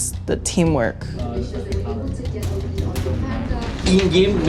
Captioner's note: indistinct chatter